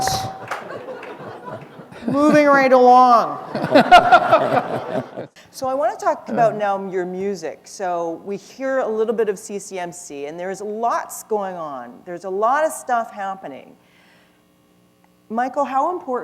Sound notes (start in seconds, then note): 3.4 laughter